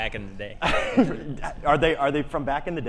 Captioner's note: laughs